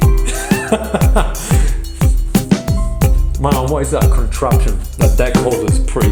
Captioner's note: upbeat music; laughs